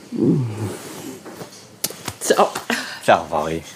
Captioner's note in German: Kussgeräusch